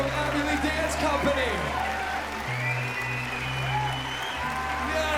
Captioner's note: cheering and applause